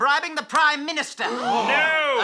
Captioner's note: collective gasp